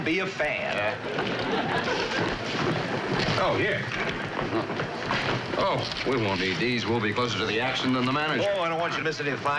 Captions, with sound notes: any of the fine points of the game. (CHUCKLES) Okay. Excuse me, please. Tickets for Stone, please. Stone.